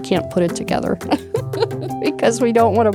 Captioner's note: laughter